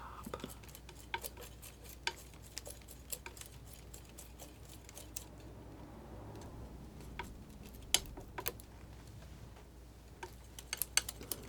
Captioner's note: scratching